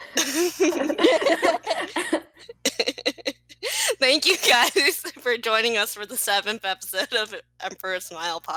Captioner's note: laughter